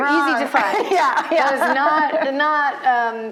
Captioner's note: laughing